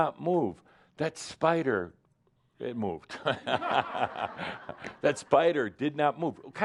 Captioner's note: laughter